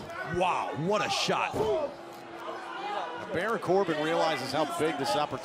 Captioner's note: crowd chatter